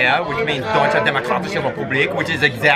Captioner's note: speaks German